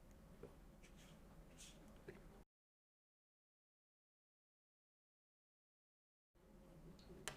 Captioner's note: silence